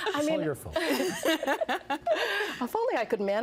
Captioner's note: laughing